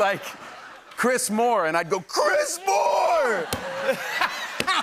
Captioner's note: laughter